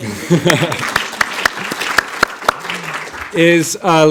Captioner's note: audience applauding